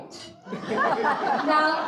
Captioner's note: audience laughing